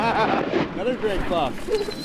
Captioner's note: laughing